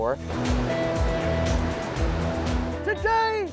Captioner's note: upbeat music; water rushing